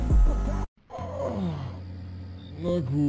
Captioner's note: auuuuuuuuughhhhhhhhh